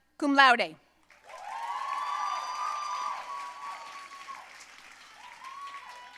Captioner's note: audience cheering and applauding